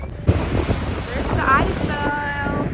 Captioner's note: crowd chatting